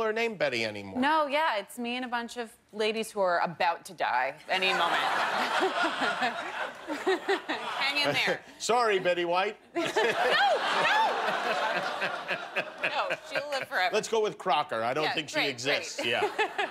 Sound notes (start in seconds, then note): 9.7 laughter